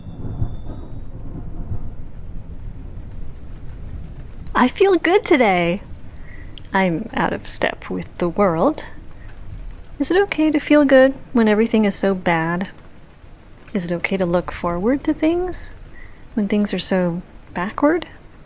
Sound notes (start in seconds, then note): 0.2 distant thunder; 2.4 rain, underlying